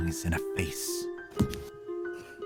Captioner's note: slaps her desk